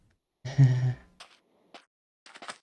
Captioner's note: nervous laughter